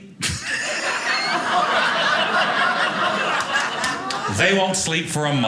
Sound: audience laughing

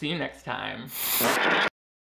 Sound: TV static

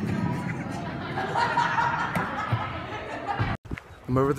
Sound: distant laughter

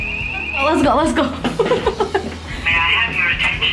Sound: laughs

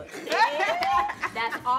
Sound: all laughing

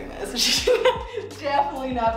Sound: laughs

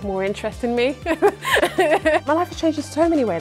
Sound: laughter

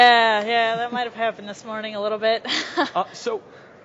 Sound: laughs

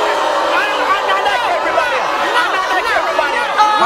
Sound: chattering

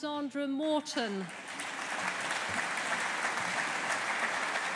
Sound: audience applauding

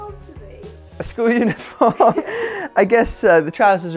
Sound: laughing

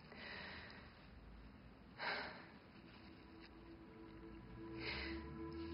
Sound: sighs

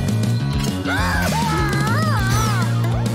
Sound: screaming

